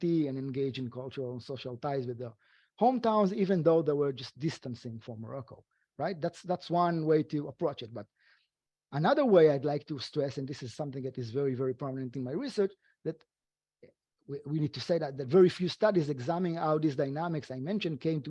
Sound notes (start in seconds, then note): none